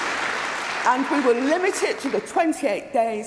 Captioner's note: cheering & Applause